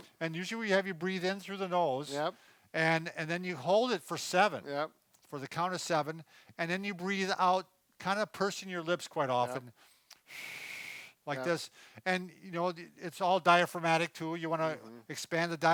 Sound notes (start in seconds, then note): 10.2 blowing air